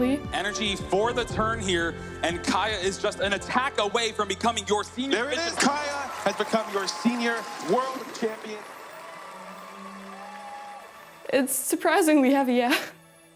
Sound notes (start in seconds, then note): 8.1 applause